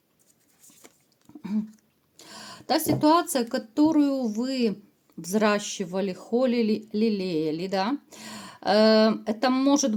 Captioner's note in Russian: откашливается